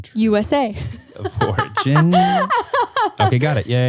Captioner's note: laughs